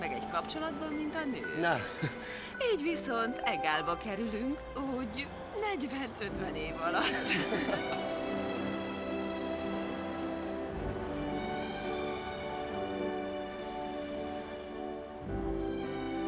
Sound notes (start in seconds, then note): 6.8 chuckles